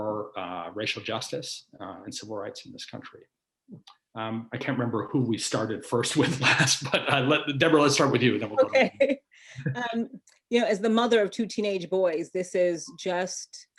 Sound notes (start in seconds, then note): 6.0 chuckles